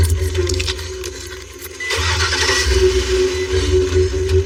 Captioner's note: enginine revs